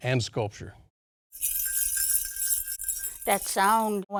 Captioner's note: jingling